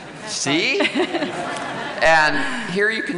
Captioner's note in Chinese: 笑聲